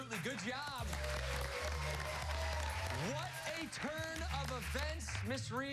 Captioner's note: applause